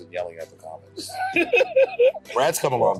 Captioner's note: laughing